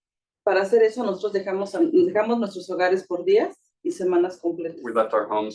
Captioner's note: speaking Spanish